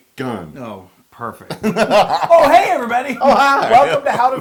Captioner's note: laugh